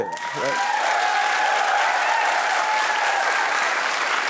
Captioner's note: audience applauding